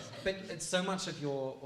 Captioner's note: laughing